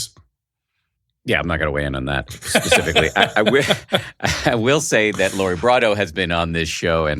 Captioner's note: laughing